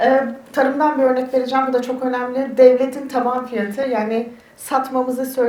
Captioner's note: speaks in Turkish